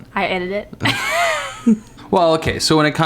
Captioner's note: laughing